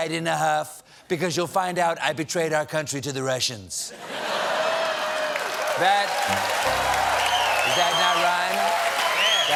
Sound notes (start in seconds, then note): 3.9 laughter; 4.6 cheers and applause